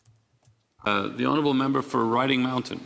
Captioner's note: speaking French